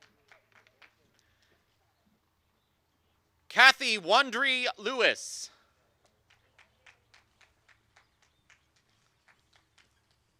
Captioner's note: applause